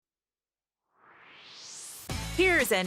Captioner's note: swoosh